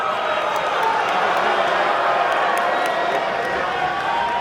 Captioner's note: crowd boos continue